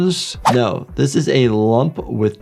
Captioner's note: graphics whooshes